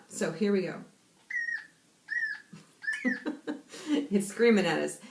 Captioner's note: repeated squealing sounds